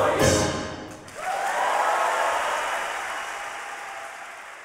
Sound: audience cheering

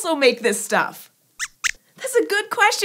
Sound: squeaks Squeaks

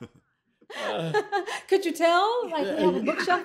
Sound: laughter

